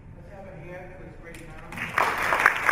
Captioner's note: applause